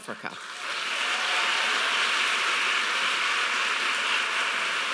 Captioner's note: audience applauding